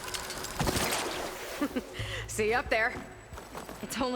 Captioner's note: laugh